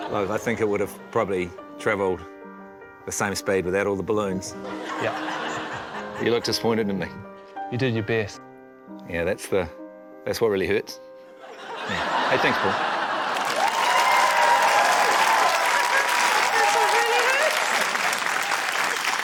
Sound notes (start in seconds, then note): 13.1 cheering, applause